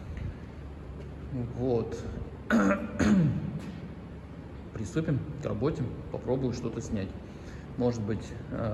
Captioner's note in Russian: откашливается